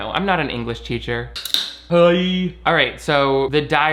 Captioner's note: can clicks